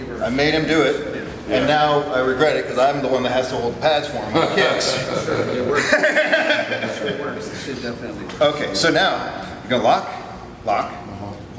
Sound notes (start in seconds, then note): 4.3 laughs